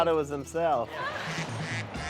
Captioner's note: ducks quacking